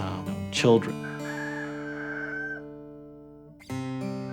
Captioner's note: rooster Crowing